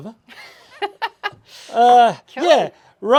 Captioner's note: laughs